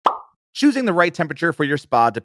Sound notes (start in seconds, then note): 0.0 bubble pops